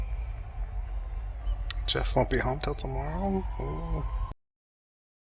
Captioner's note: tsk